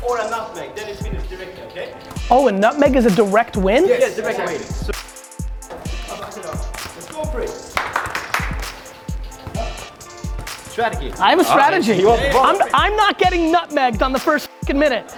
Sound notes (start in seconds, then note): 7.6 claps